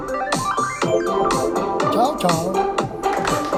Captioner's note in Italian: Applauso